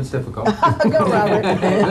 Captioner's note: laughing